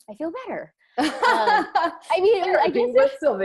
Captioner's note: laughing